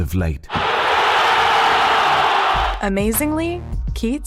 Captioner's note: crowd cheers